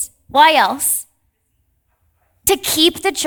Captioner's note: participant faintly speaking